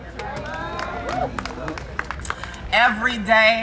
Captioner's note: crowd applauding